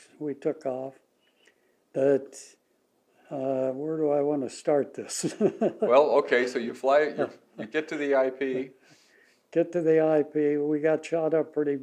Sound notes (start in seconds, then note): 4.5 laughs